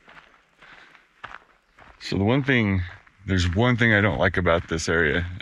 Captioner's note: footsteps crunching